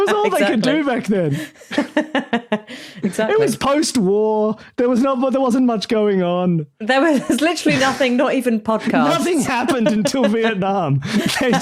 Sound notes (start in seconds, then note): 1.6 chuckles